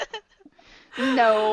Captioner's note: laughter